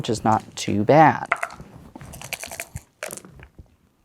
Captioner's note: dice rattling; dice rolling